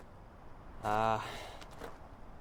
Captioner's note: sighs